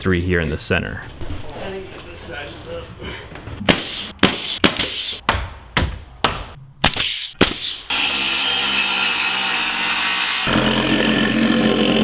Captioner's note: nail gun sounds